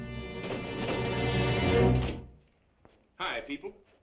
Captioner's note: door knocks